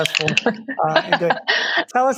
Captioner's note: laughing